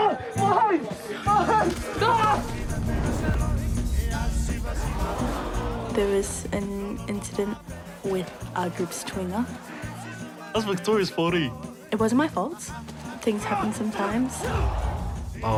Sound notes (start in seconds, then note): 4.7 onlookers gasp; 14.4 grunts